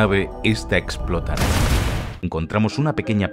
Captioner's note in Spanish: explosión